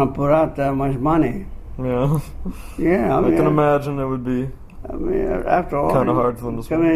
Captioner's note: laughs slightly